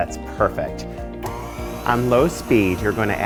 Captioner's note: mixer whirring